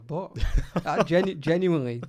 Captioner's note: laughs